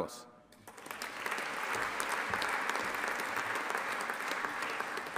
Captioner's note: audience applauding